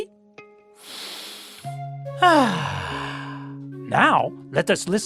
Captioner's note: breathes deeply